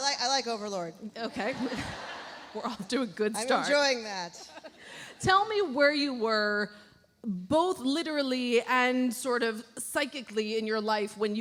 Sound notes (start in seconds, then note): 1.6 chuckles